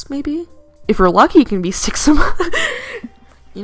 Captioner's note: wheeze